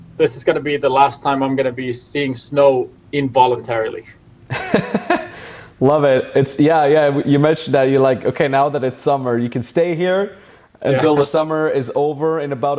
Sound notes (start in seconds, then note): 4.5 laughs